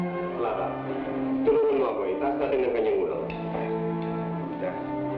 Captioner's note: priest speaking in Tagalog